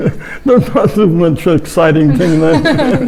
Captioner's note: laughing